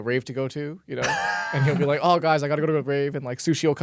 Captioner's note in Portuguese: risos